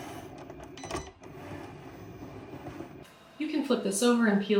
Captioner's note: Cricut beeping